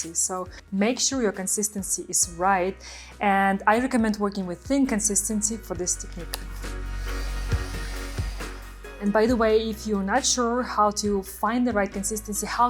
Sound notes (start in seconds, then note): 6.4 blower whirring; 7.5 pleasant music